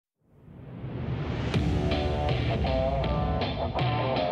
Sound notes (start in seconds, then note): 0.4 air whooshing; 1.4 rock music